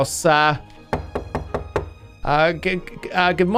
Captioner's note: knocks on Door